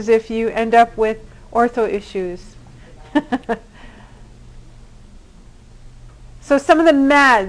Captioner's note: laughter